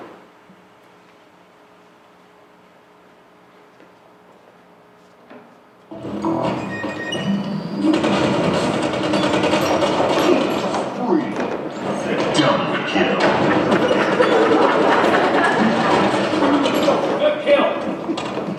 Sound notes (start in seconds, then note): 7.8 machine gun fires; 10.8 deep Voice; 12.7 laughter; 15.6 machine gun fires